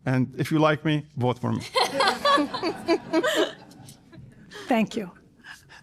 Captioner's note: laughter